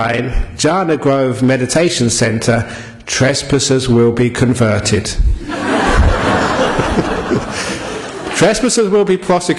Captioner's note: laughter